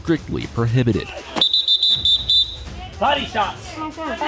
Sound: instructor whistles

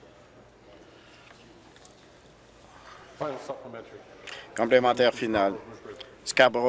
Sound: conversation din

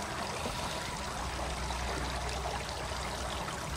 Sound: water splashing

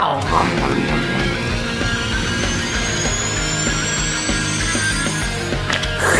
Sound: rock music; Luigi munching

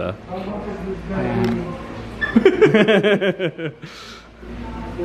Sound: both laughing

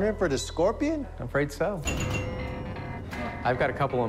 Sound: dinging

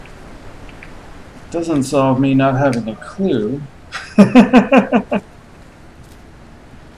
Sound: laughs

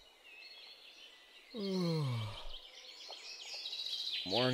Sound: yawning

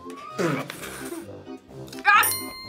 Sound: laughs

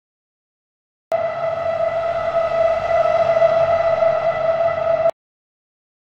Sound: sound of metal scrape

